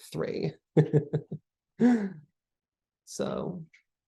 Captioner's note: laughs